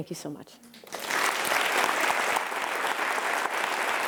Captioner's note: applause